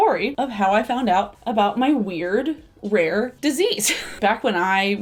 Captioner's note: laughs